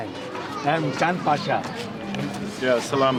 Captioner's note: non-english speech